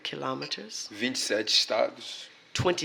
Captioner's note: speaking portuguese